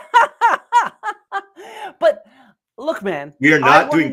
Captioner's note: laughing